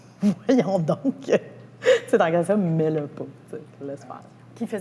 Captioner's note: laughs